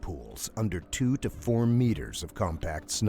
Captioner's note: voiceover